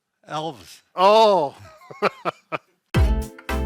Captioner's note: laughing; mellow music